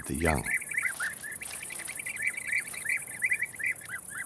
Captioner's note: birds chirping